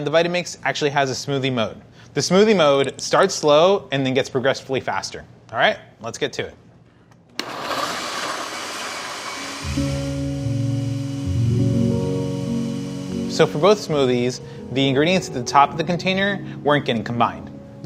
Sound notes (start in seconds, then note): 7.4 blenders whirring